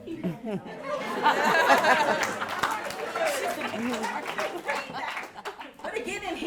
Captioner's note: audience laughs and claps